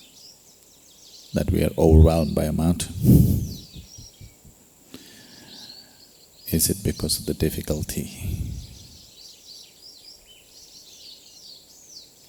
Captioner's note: laughs